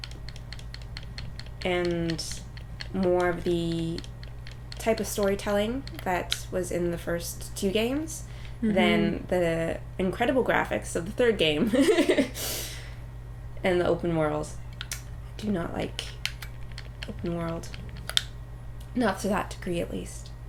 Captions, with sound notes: ...and... more of the... type of storytelling that was in the first two games than the incredible graphics of the third game. (LAUGHTER) And the open world. Do not like... open world. Not to that degree, at least.